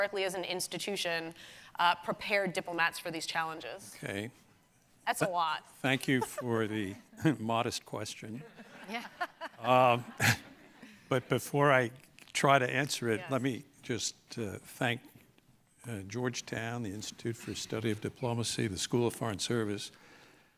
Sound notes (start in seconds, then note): 6.1 laughs; 8.6 audience laughing